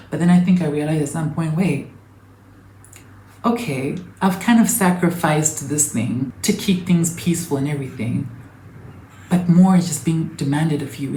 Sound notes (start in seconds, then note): none